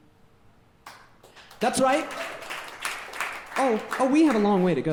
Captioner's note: audience clapping